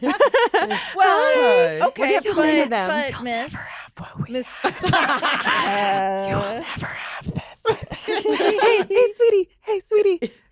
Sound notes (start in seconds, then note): 0.0 laughter; 2.9 whispers; 7.7 laughter